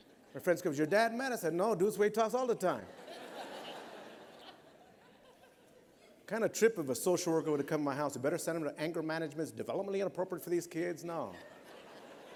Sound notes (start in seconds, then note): 2.8 laughter